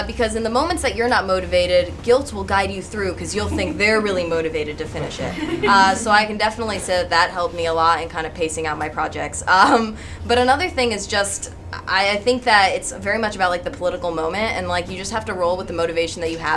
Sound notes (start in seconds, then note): 5.3 audience chuckles